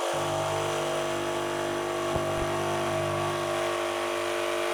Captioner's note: saw cutting wood